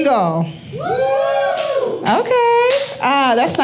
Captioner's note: audience cheering